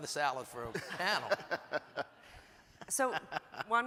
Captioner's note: everyone chuckles